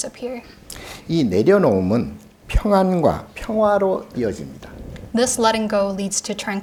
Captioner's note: speaking Korean